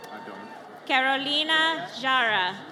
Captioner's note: audience cheers